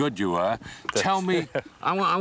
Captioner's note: laughing